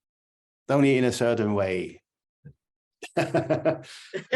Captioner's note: laughter